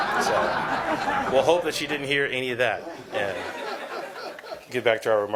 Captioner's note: laughter